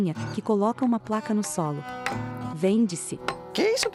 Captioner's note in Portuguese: Marteladas